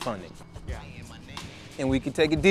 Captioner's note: male Voice